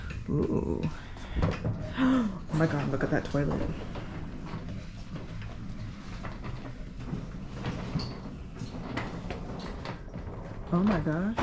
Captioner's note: gasp